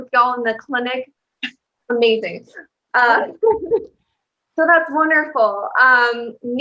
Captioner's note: laughter